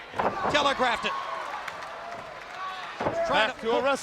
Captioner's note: crowd cheering